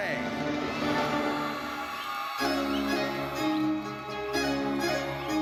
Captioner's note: audience cheers